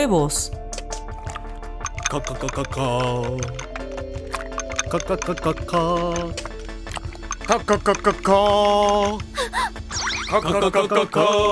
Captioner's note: sounds of breaking and beating an egg